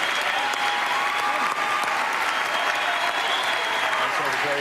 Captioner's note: cheers and applause